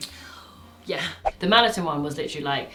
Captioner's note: screen whooshing